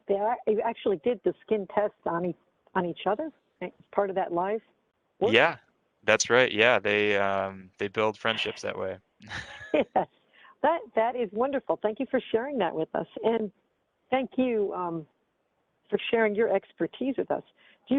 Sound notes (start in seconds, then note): 9.2 chuckles; 9.2 laughs